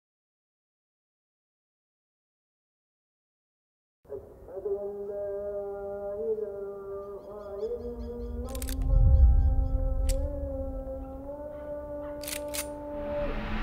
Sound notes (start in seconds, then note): 4.1 sound of 'azaan' from a mosque; 8.5 gun being loaded